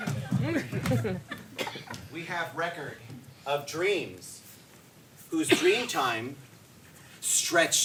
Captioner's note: audience laughs